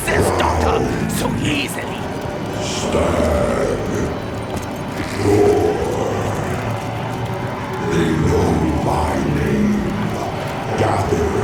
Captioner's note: demon voice